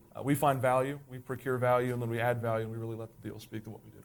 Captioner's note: none